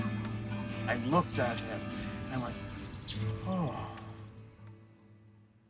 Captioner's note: sighs